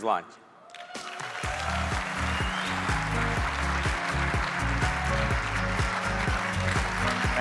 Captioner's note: audience applauding; upbeat music